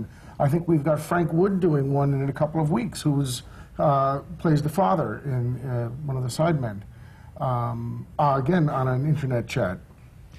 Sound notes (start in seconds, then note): none